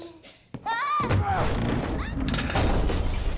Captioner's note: screams